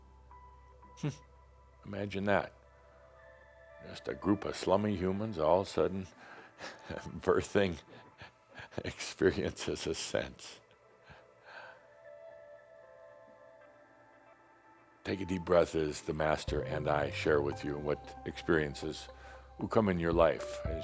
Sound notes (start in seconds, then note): 10.3 Adamus chuckles